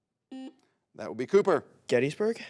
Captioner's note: buzzer beeps